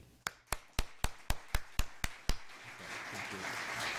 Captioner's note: clapping